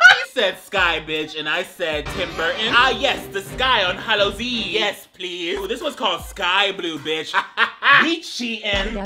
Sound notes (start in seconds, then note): 0.0 laughing; 6.4 laughing